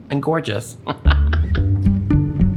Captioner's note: laughing